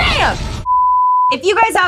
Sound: beep

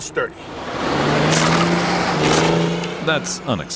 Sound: vehicle engine whirring

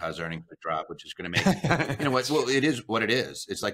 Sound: laughs

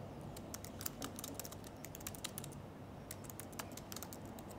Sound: keyboard clicking

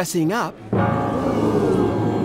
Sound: crowd

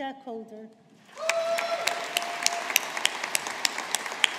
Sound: audience applauding

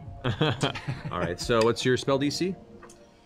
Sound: laughs

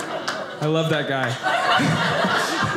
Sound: audience applauding; audience laughing

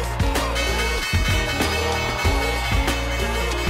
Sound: attendees cheering and clapping; bell ringing

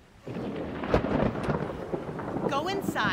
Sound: thunder cracking

